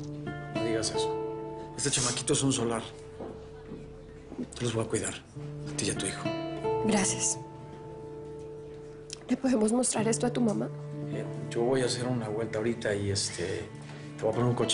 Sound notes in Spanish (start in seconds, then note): none